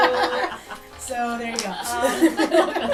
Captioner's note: laughter